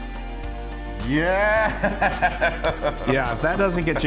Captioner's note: laughs